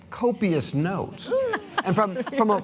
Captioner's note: laughter